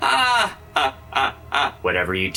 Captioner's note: maniacal laughter